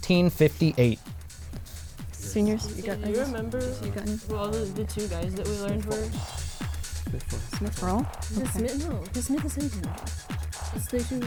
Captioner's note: wispering